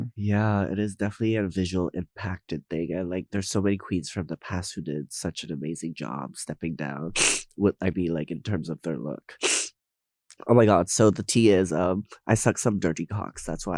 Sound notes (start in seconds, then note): 7.1 Nymphia sniffing; 9.4 Nymphia sniffing